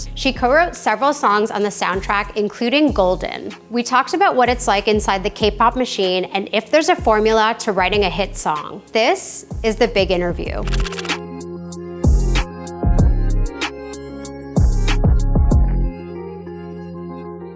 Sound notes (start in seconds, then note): 10.6 camera clicking; 11.5 casual music